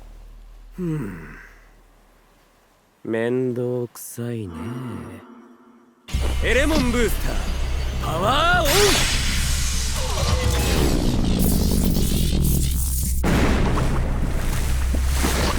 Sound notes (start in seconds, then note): 0.7 sigh